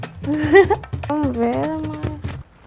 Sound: chuckles

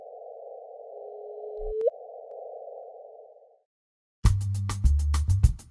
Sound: sound of gravitational wave detection

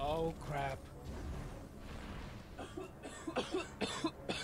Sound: coughing

